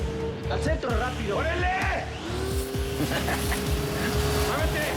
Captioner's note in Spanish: Risas